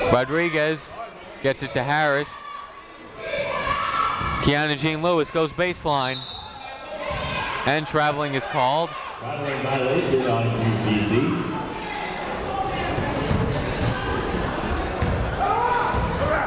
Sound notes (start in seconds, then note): 6.1 whistle tweeting; 12.5 people talking in the crowd